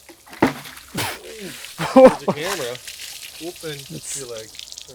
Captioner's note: both mumbling